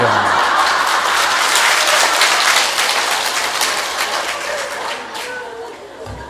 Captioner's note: audience Laughter